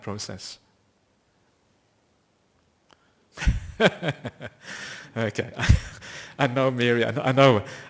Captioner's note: laughter